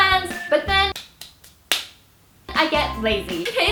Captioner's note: clapping Sounds